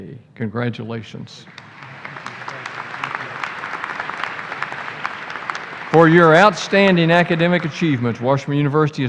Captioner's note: applause